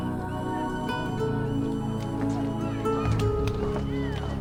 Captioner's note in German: Falke kreischt